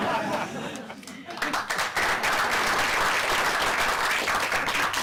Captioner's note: laughter; applause